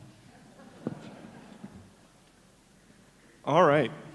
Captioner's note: audience laughs